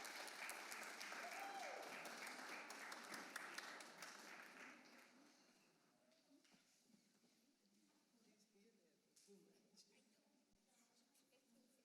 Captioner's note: applause